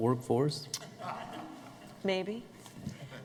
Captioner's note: laughter